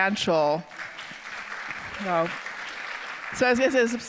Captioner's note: audience applauding